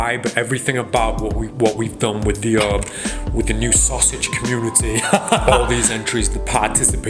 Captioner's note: laughs